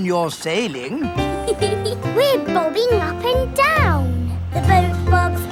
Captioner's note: giggles